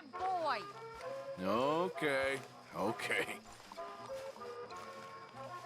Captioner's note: laughs